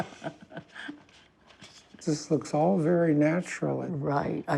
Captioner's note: laughter